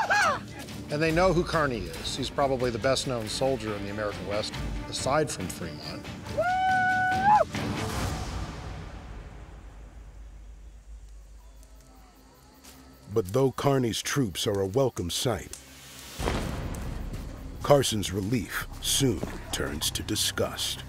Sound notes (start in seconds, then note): 6.3 cheering